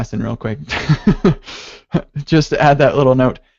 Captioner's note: laughs